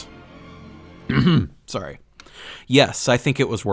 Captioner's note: clears throat